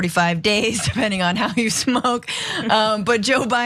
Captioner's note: laugh